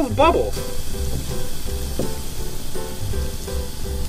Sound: fizzing

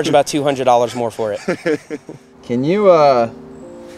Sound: laughs

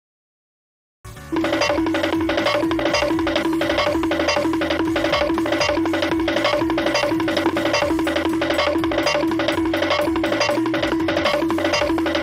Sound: cartoon running noises

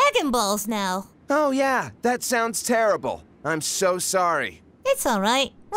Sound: sarcastic

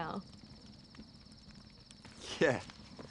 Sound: crickets chirping

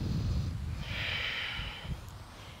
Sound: inhales and exhales

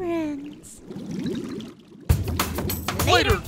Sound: bubbling

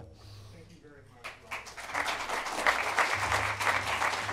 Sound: clapping

